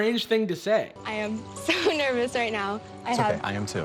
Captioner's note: chuckles